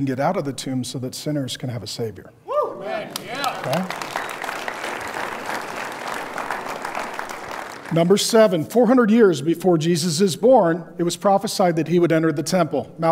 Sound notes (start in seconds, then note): 3.0 audience applauds